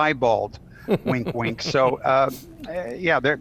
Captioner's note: laughing